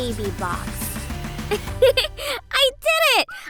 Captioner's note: chuckles